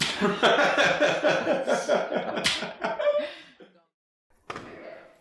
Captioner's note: all laughing